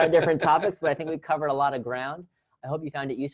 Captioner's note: laugh